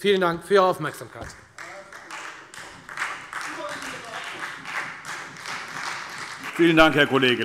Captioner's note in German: Beifall Freie Demokraten